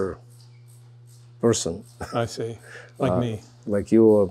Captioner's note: laughing